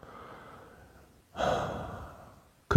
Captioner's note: sigh